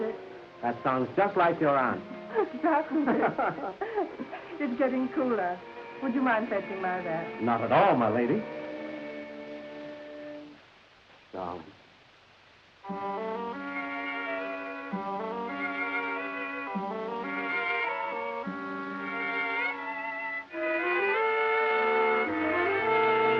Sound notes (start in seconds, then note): 2.2 both laughing